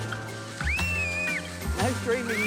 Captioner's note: screams